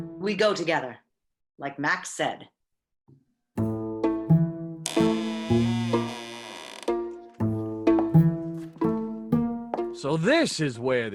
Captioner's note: sound of door opening quietly, feet shuffling